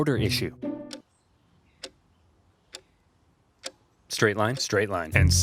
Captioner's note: clock ticking